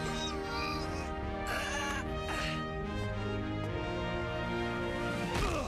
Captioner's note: struggles